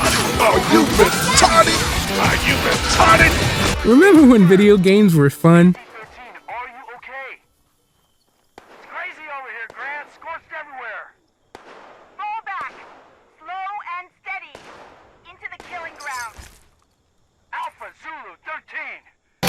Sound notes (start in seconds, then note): 6.5 Poorly acted Fallout 76 radio chatter